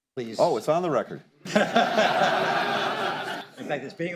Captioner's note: laughter